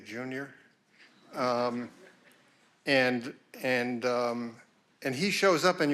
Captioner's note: audience laughing